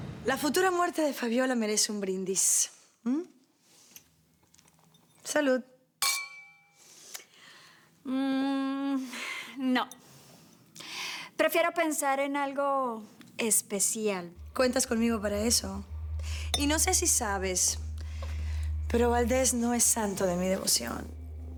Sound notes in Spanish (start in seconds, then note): 6.0 Sonido de las copas